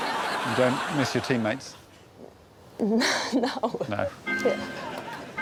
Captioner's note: chuckling